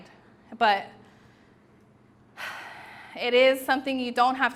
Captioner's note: exhales